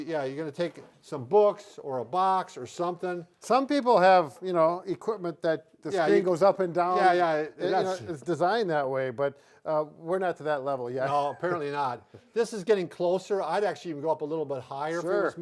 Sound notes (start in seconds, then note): 11.0 laughing